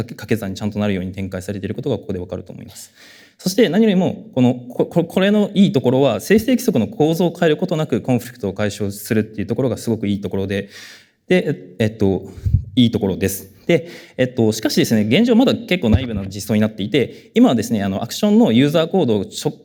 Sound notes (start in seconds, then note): none